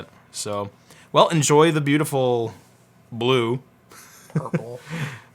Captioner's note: laughs